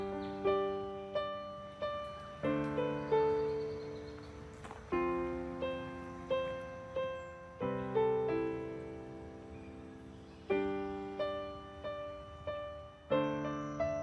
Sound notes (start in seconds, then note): 4.0 footsteps on dirt path; 10.6 music softens